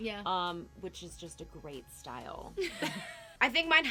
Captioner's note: laughing